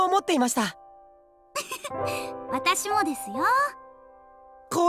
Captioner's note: giggle